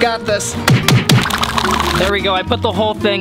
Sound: punching sounds

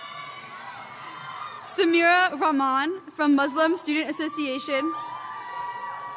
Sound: cheers

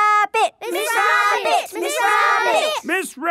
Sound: all chanting

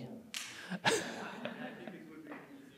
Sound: audience laughing

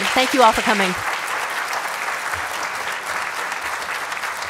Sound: applause

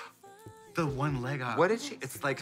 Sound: gasp

